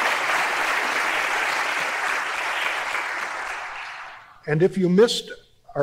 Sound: applause

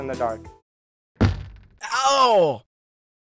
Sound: thud

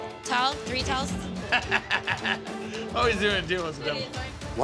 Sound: laughing

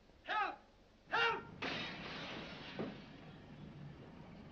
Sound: crashing noise

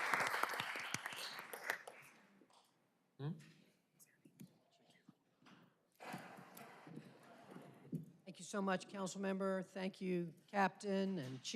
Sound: applause

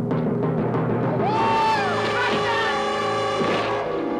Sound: shrieking

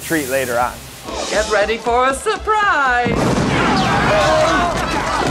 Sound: explosion

